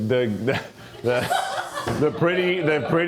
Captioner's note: crew member laughs